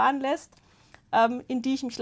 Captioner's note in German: none